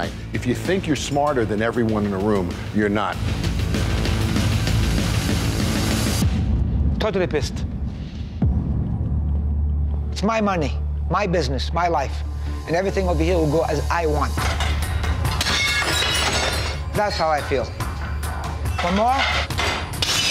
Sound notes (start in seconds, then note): 3.8 intense music; 15.3 glass crashing